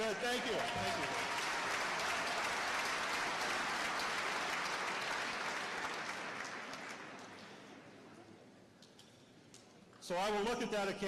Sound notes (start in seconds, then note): 2.2 applause